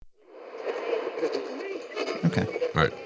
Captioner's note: people chattering; radio static whirring